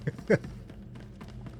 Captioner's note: laughs